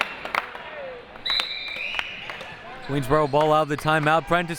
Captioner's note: whistle blowing